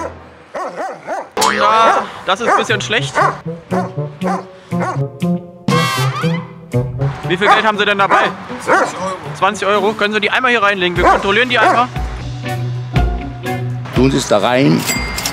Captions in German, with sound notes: (Hundebellen) Das ist etwas schlecht. (Schelmische Musik) Wie viel Geld haben Sie dabei? 20 Euro. - 20 Euro? Können Sie die reinlegen zum Kontrollieren? Tun Sie es da rein.